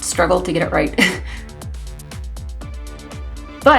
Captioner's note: laughs